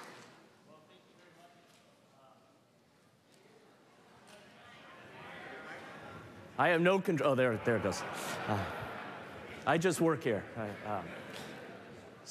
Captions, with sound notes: I have no control-- oh, there it goes. [LAUGHTER] I just work here.